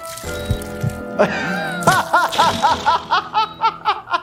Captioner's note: laughs